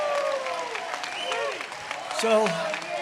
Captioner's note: applause